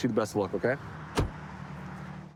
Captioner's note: door bangs